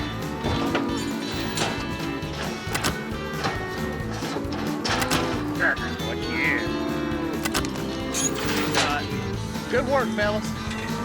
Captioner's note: mooing, ear tag clicking; gates clanking, ear tags clicking